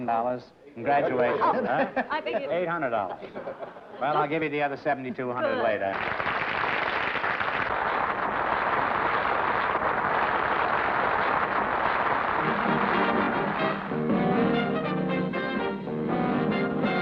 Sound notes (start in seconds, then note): 6.6 applause